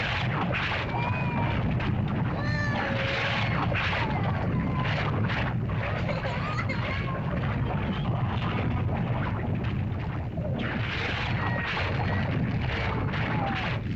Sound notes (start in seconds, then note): 0.0 lava bubbles & flows; 0.7 Wandi cries